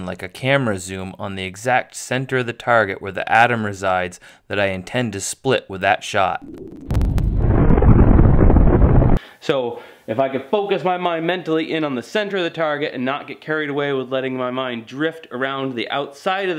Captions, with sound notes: like a camera zoom on the exact center of the target where the atom resides that I intend to split with that shot. (explosion) If I can focus my mind mentally in on the center of the target and not get carried away with letting my mind drift around the outside